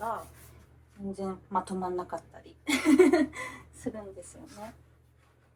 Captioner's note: laugh